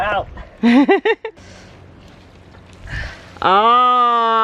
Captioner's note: laughs